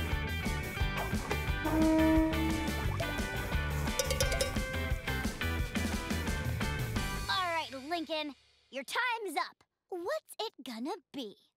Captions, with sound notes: [honking] [ringing] Alright Lincoln, your time's up. What's it gonna be?